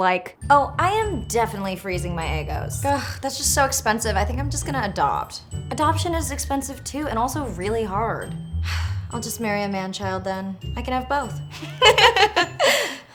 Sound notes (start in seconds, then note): 8.6 sighs; 11.6 laughs; 12.5 sighs